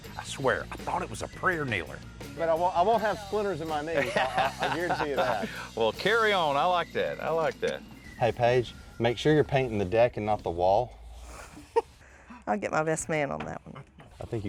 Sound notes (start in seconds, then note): 3.9 laughing; 12.1 laughs